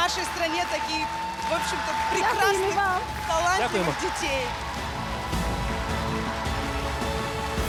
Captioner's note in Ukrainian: оплески